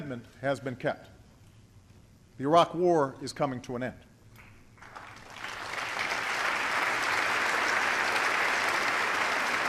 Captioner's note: applause